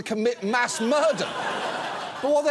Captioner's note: audience laughs